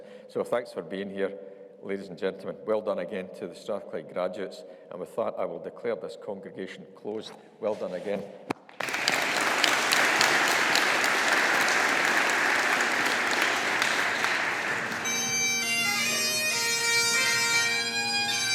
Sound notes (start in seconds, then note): 8.7 all applauding; 15.1 stately bagpipe music